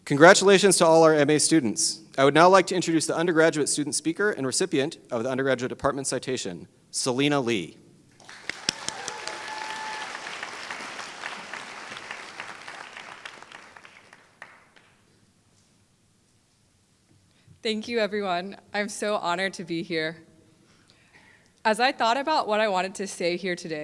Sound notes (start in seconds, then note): 8.2 applause